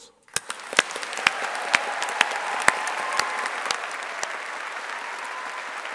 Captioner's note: audience applauding and cheering